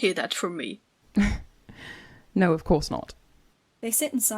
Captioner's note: Regulus lets out a laugh